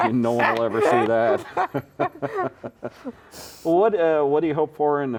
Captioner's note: laughing